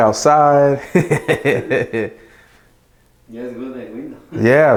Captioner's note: laughs